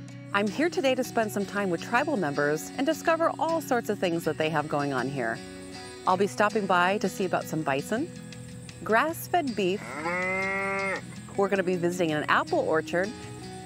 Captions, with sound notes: I'm here today to spend some time with tribal members and discover all sorts of things that they have going on here. I'll be stopping by to see about some bison, grass-fed beef. [cow mooing] We're gonna be visiting an apple orchard,